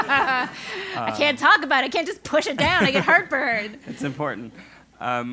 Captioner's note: laugh